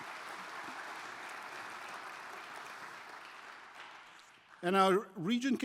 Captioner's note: applause